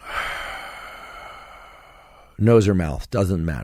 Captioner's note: exhales slowly